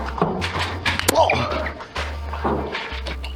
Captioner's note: pained yelp; footsteps and occasional dart thunk